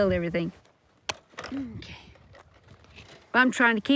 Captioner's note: wire snaps